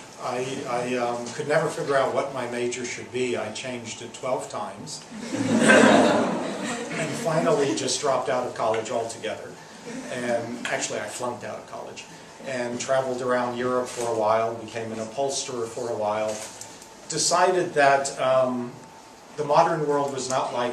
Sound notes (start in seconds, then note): 5.2 laughs